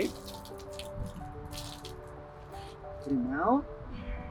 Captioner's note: water splashing; soft music